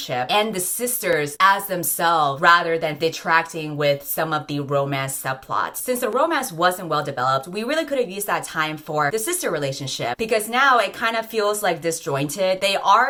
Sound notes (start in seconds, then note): none